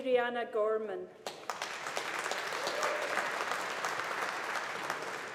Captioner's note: audience applauding